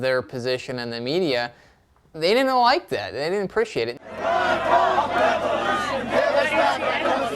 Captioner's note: chanting